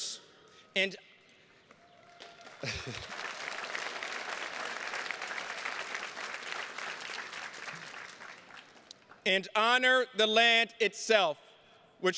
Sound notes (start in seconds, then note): 1.6 attendees clapping; 2.6 chuckles